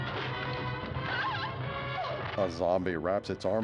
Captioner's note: screams